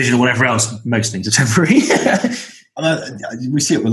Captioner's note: laughs